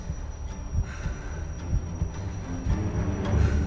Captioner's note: heart pounds; exhales